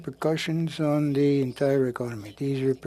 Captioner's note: speaking French